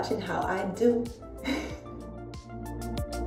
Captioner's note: chuckles